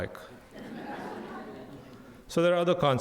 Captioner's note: audience laughs